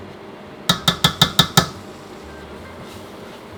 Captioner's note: tap tap tap tap